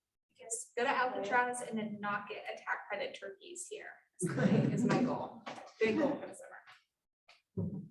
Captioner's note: laughter